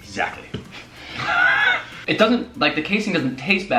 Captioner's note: laughing